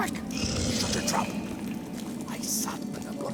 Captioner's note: hushed